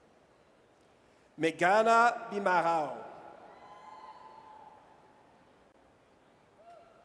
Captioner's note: audience cheers